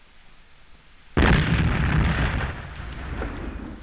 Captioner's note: explosion